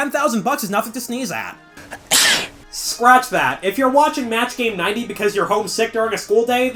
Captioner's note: clip of someone sneezing